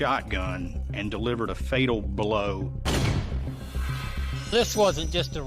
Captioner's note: gun firing